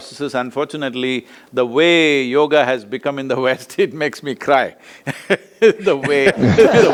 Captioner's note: both laugh